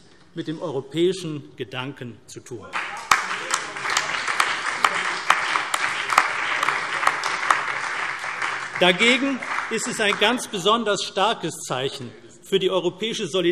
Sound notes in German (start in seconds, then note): 2.7 Beifall CDU, BÜNDNIS 90/DIE GRÜNEN und SPD